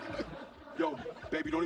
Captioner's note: laughing